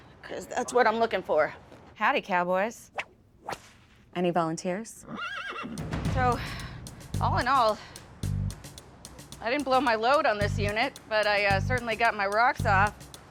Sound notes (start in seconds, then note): 3.4 whip snaps; 5.0 horse whinnies